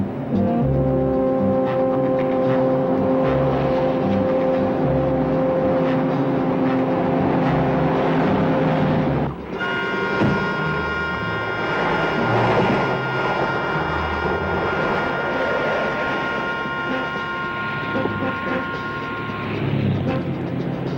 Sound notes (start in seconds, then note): 0.1 suspenseful music; 7.9 car whizzes; 9.5 door thuds close; 9.5 suspenseful music; 12.7 car whizzes; 15.1 suspenseful music